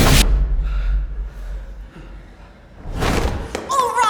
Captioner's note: people panting